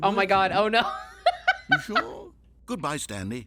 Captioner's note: laughs